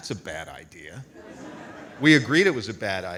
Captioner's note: audience laughs